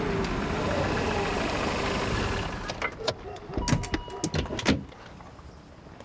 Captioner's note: dogs barking